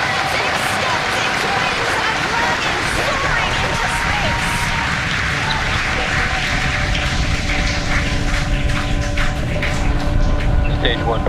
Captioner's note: cheers and applause